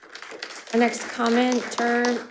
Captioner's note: crowd applauding